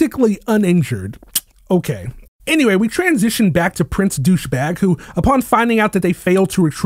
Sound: scoff

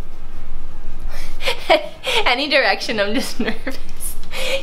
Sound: laughing

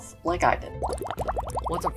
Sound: bubbles

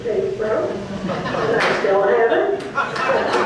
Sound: audience laughs and applauds; audience laughs

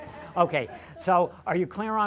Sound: laughter

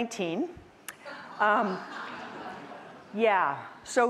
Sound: audience laughing

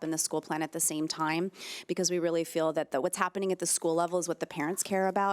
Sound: none

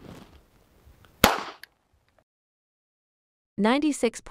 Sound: gunshot

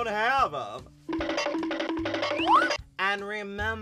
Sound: Flintstones scrambling sound effect

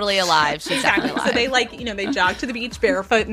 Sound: both laughing

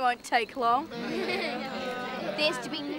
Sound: crowd laughing

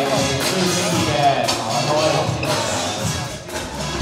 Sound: indistinct chatter

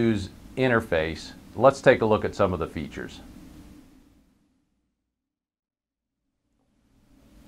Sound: pause

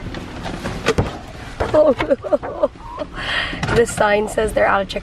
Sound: laughing

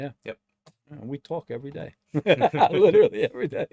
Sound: both laugh

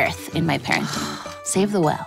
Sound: sighs

